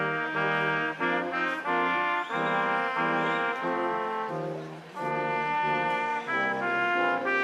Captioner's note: instrumental music continues; crowd applauding